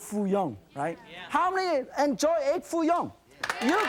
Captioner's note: applause